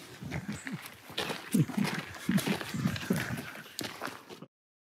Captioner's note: Lachen